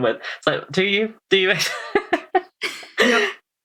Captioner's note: laughs